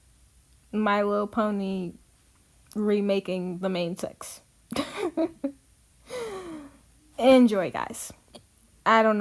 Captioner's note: laughs